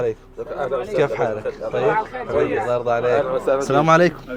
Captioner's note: Arabic